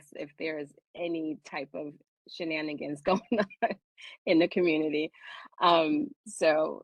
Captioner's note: laughter